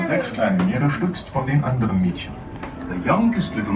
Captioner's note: narrator speaking in foreign language